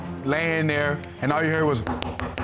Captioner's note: knocks on wood